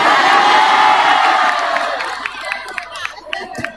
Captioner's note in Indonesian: bersorak